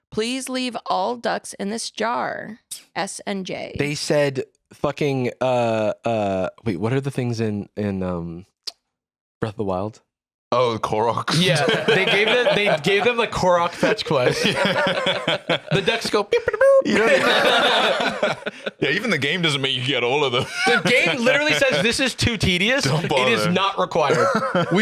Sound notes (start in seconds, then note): 11.6 laughs; 17.8 all laughing